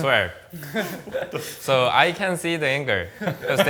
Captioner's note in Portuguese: risos